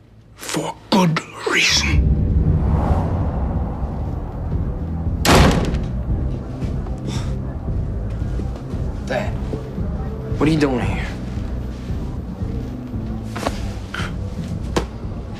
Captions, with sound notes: For good reason. [door slams] 'Dad.' What are you doing here?